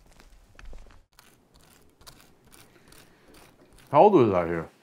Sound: knife scraping

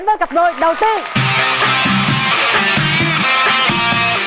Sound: audience applause

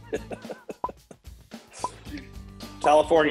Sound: timer beeping; laughs

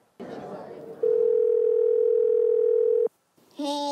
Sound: phone ringing

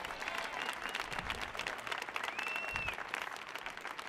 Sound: audience cheering

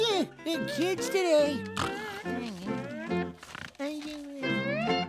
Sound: snoring

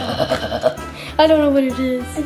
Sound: guttural muttering

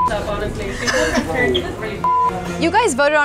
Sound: beep

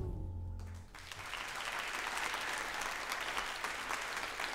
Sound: audience applauds

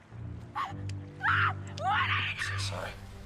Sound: screaming

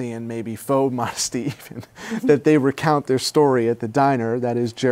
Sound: laughs

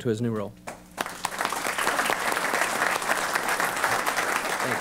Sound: applause

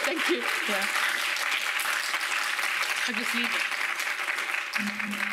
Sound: audience applauding

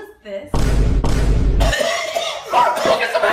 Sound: chokes

